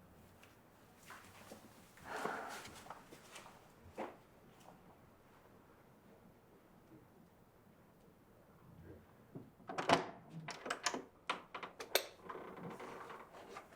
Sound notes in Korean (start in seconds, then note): 2.0 진희 한숨 소리; 9.7 문 열고 불 끄는 소리